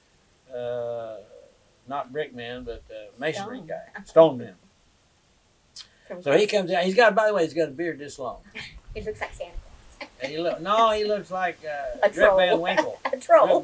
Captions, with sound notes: ” He is a famous, not a brick man but… Stone. Masonry guy, stone man. So he comes out. By the way, he has got a beard this long. He looks like Santa Claus. (Laughs) No, he looks like… A troll.